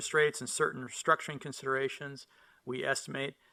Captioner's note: none